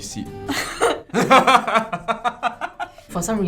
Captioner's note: laughs